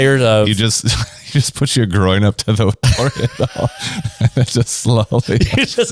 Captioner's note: laughs; laughs